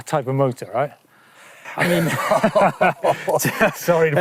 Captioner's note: both laugh